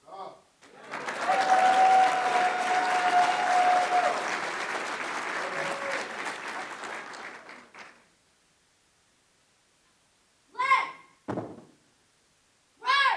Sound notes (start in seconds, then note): 0.6 applause